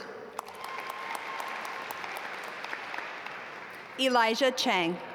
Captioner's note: audience applaud